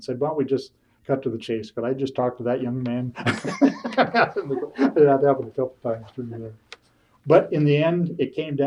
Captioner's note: laughs